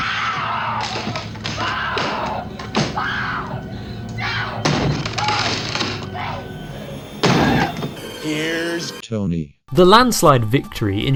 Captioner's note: screaming